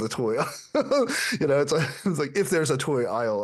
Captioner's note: laughing